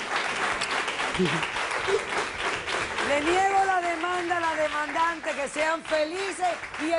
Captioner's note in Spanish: Aplausos